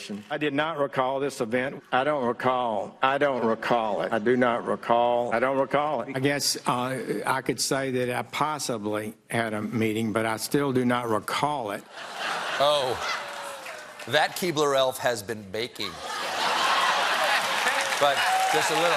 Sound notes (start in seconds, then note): 11.9 laughter; 13.3 applause; 14.2 laughter